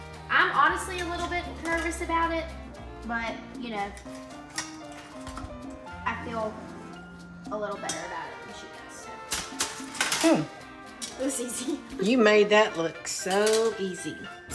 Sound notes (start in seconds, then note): 9.2 metal clinking; 11.6 laughs